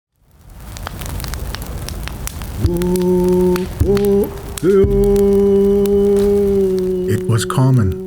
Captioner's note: crackling fire